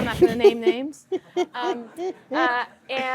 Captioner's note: laughter